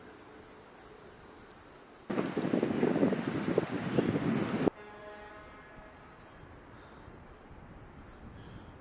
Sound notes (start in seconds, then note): 2.0 wind gushing